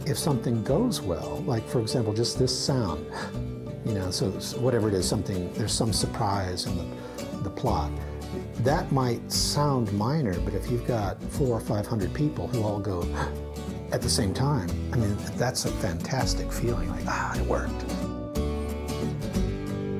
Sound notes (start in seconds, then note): 3.0 gasps; 13.1 gasps; 16.7 upbeat acoustic guitar music